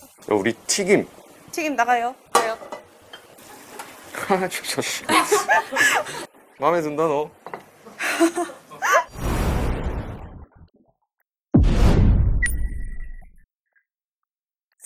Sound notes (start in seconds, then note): 7.9 haha